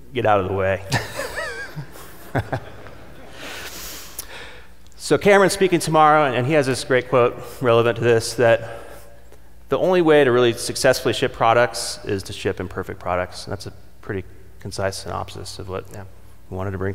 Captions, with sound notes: get out of the way. (audience laughing) Cameron's speaking tomorrow and he has this great quote relevant to this that the only way to really successfully ship products is to ship imperfect products and that's a pretty concise synopsis of what I wanted to bring